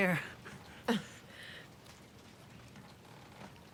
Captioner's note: laughs